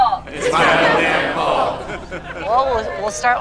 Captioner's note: laughter